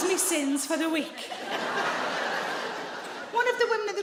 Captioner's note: audience laughing